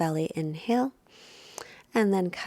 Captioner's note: inhales deeply